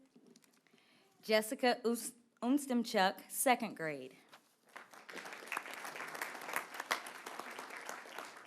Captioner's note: applause